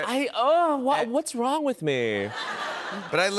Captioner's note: laughter